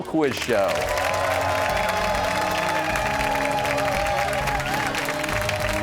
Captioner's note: cheers and applause